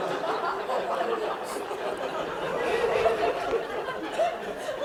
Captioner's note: laughter